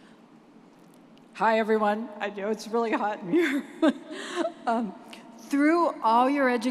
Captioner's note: chuckles